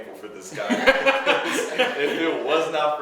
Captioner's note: laughing